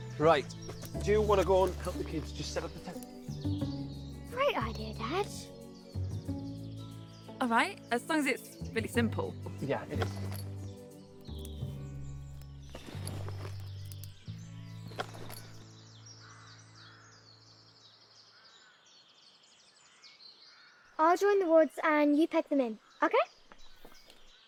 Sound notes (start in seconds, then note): 11.7 gentle orchestral music continues; 14.3 birds chirping